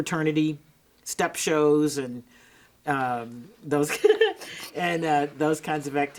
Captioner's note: giggles